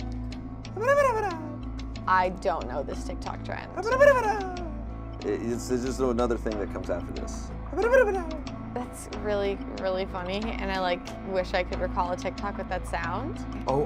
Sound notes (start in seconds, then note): 0.7 gibbers; 0.9 slow suspenseful music